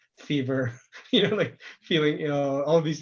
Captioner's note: laughs